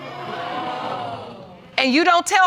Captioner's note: audience gasping